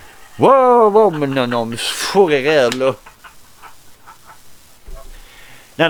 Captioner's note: laugh!!!!!